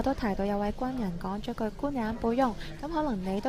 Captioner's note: in Mandarin